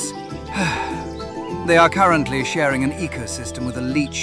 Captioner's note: sighs